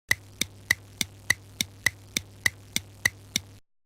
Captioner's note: clock ticking